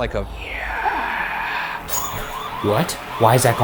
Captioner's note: siren sounds